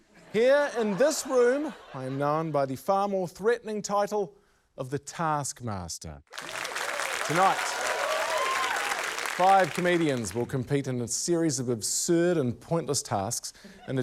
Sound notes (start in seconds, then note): 0.1 laughter; 6.3 cheering